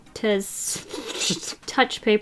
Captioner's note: laughs